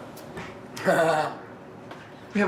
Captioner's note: laughs